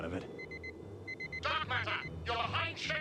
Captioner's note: beep beep beep